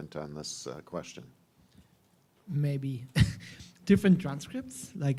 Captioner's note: chuckles